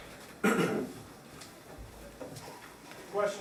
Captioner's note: coughs